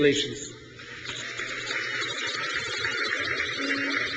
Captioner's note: crowd cheers